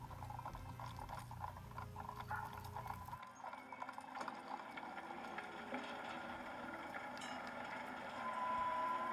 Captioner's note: barking continues, faintly. Hooves trotting over stone